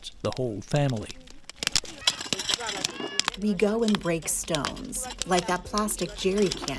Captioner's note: through translator